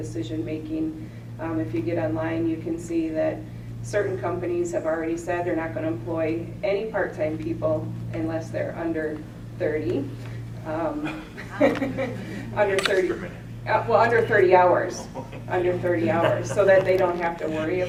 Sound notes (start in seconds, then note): 11.0 laughter